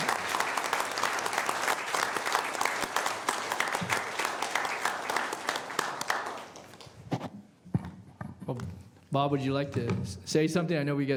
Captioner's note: applause